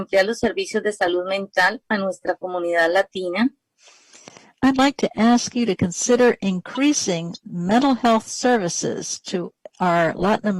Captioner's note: speaking spanish